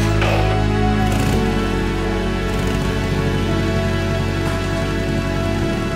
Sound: motorcycle engine revving, then idling

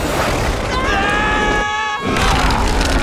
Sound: screaming

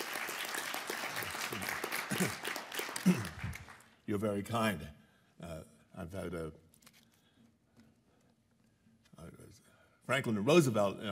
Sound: applause

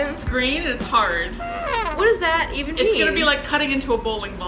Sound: trumpet deflating

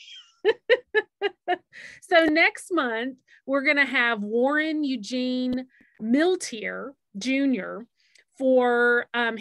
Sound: laughs

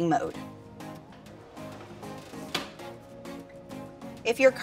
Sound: upbeat music; car seat snapping

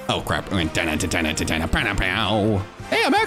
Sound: vocalizing

